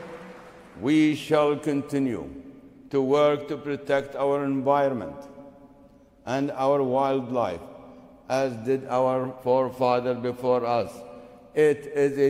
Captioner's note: applause